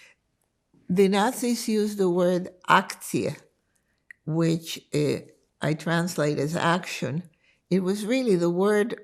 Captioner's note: german